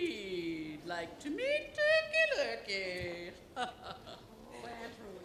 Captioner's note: laughs